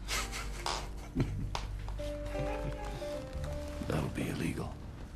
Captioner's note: chuckling